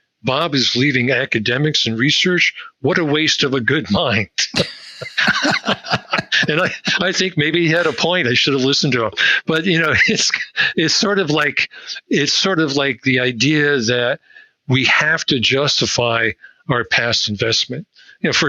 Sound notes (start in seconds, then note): 4.5 both laughing